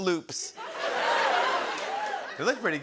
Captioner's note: laughter, cheers